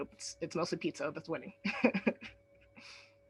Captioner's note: chuckles